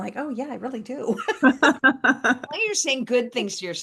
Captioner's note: laughing